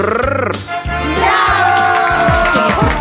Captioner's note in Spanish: Aplausos